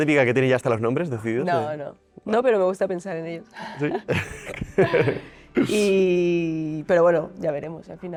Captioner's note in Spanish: risas